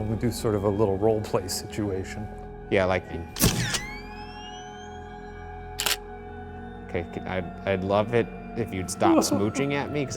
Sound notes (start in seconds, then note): 3.7 camera shutter clicks